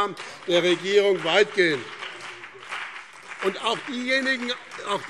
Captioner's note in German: Beifall BÜNDNIS 90/DIE GRÜNEN und CDU - Zurufe SPD